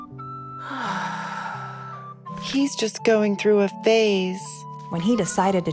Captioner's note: sighs